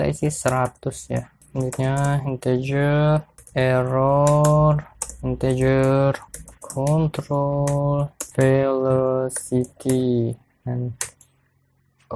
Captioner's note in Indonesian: typing code